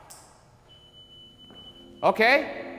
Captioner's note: light beeps